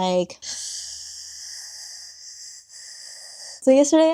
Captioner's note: gasping